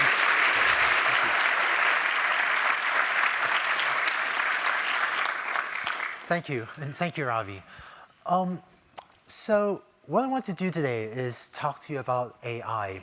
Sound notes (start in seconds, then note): 3.8 applause